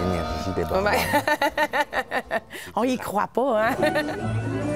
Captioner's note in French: rires